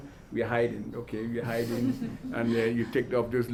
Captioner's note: audience laughs